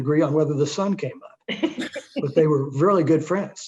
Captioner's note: both chuckle